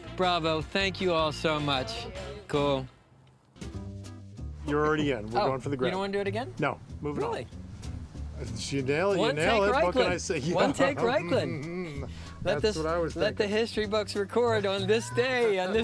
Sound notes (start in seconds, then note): 10.4 laughing